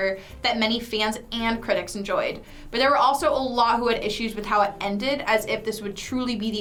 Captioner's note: none